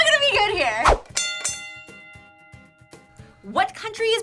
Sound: bell rings

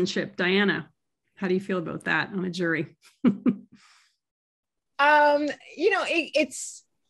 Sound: chuckles

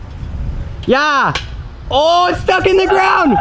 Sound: cheering

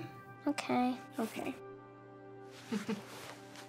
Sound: chuckle

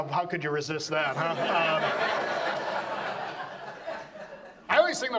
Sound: audience laughs

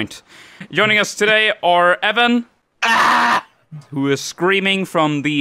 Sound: screams

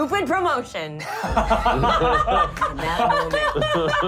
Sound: laughing

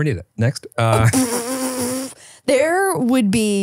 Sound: flutters lips

